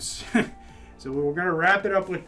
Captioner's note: chuckles